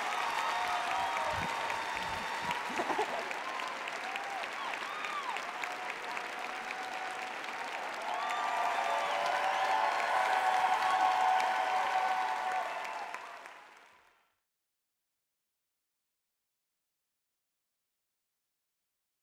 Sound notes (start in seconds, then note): 2.5 laughing; 8.9 cheering